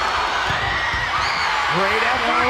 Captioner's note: players screaming; players yelling; crowd cheering